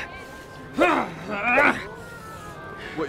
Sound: hrrh; rwarg

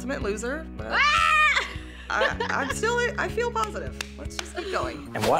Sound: squeals

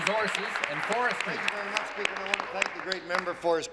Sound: applause

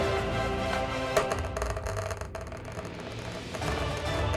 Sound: dice rolling

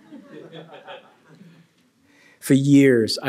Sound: laughter

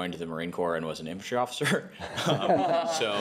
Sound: laughs

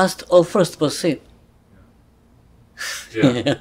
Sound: laughs

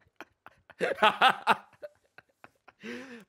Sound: laughs

